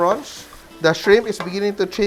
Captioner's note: sizzle